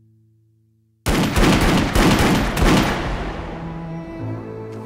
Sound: gun fires; somber music

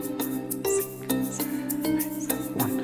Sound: whispers

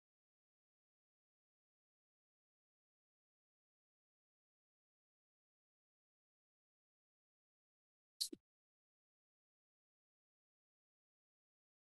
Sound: silence

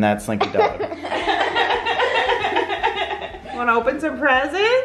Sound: laughs

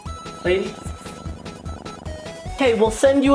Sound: cats purrs

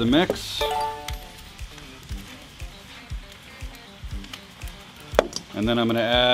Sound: beeping sound; pan simmering

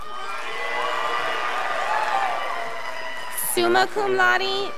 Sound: crowd applauding

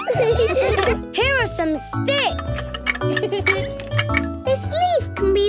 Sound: laughing

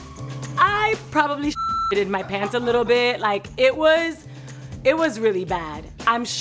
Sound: beep

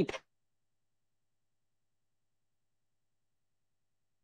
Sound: audio cuts out

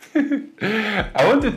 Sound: laughing

